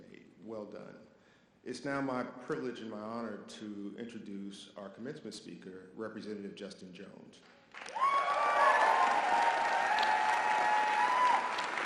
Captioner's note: audience applause